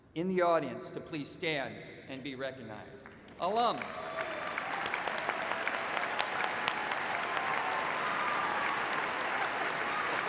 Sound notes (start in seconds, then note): 6.2 applause